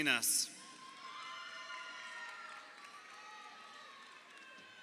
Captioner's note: crowd cheering